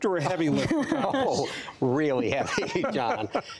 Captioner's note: laughter